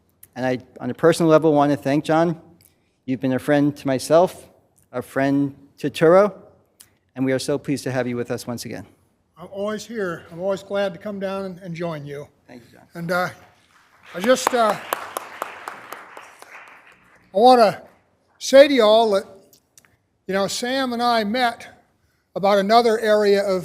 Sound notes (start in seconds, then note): 13.4 applause